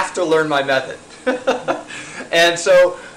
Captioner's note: laughing